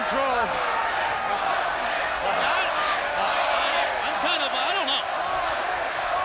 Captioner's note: applause